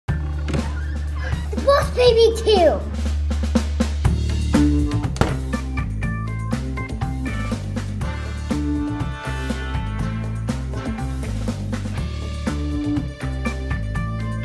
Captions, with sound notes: (upbeat dramatic music) - (gasps) Boss Baby Two!